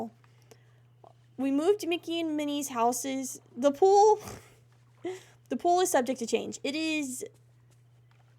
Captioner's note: laughs